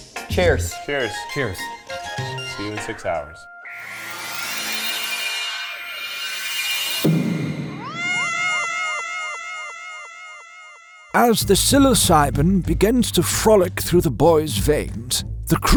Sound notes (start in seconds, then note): 3.6 psychedelic whooshing; 7.8 cat meowing